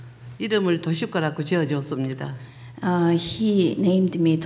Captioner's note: speaking foreign language